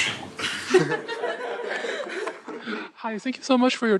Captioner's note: laughter